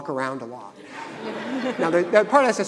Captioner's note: audience laughing